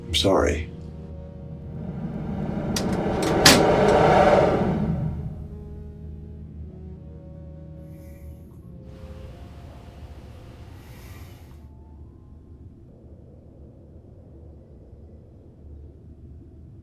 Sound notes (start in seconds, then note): 1.1 air whooshing; 1.9 mellow music